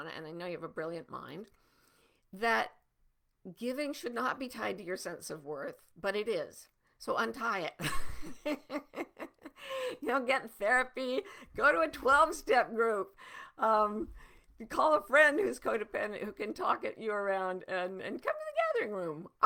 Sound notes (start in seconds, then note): 7.8 laughing